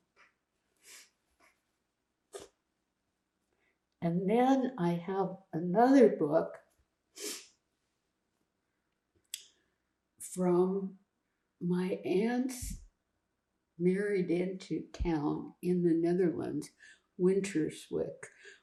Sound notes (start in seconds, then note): 0.8 wiping nose; 7.2 sniffling